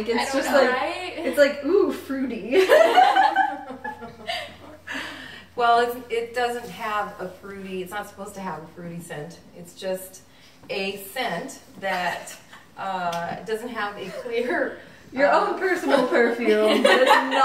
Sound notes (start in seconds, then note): 2.6 everyone laughs